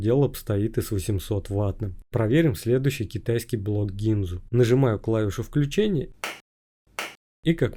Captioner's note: clap